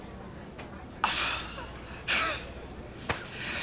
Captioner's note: scoffs